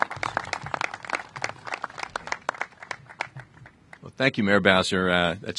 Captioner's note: applause